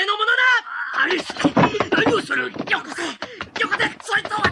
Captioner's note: SFX: struggle breaks out